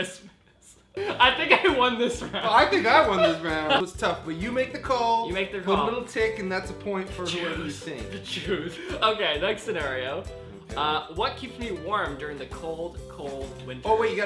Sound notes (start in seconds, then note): 1.0 laughs; 8.0 whispers